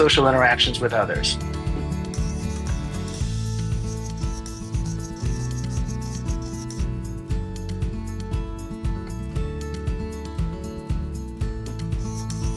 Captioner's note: upbeat instrumental music; marker writing